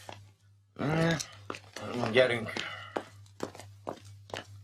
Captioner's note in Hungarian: sóhajt